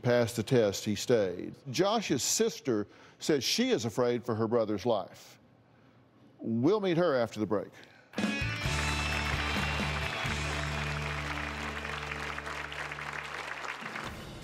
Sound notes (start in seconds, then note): 11.0 applause